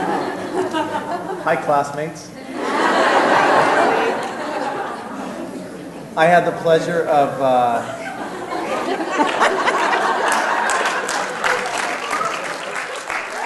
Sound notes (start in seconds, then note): 3.0 applause